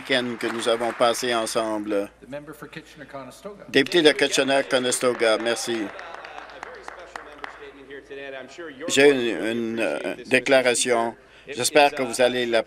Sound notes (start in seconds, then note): 0.8 applause